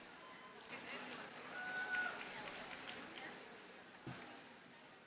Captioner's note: audience cheers and applauds